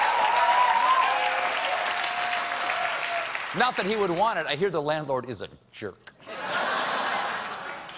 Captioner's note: applause